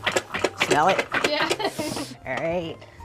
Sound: laughs

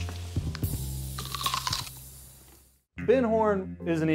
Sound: celery crunches

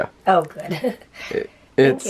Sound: laughing

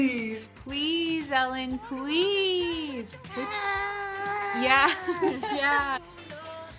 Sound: baby agreeing

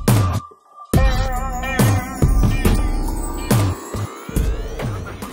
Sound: twinkling magically

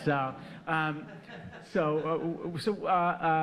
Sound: audience laughing

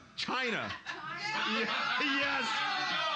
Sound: loudly laughing; audience shouting

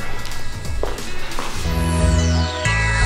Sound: cool music; footsteps pattering; chiming music

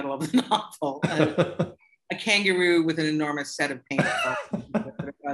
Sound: laughter; laughter

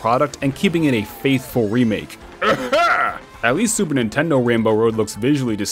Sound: cough

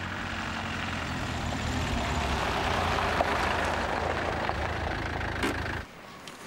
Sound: car engine running and brake clicks

